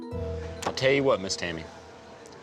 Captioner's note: none